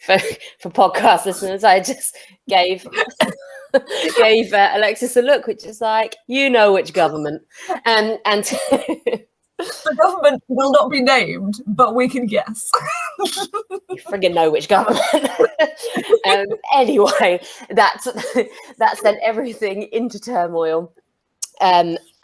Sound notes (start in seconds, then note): 2.8 laughs; 9.6 laugh; 12.7 laugh